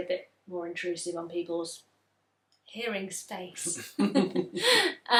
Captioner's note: laughs; they laugh